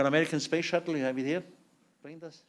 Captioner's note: non-english speech